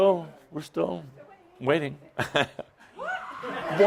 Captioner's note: Adamus chuckles